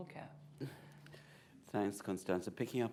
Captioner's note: laughs